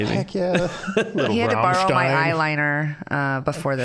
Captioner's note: scattered laughing